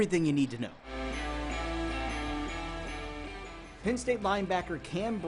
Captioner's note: cheers and applause